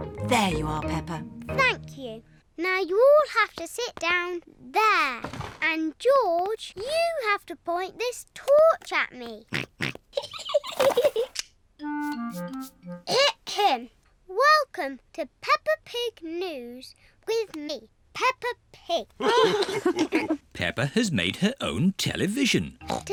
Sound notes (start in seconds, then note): 9.5 snorts; 10.2 giggling; 19.2 all laugh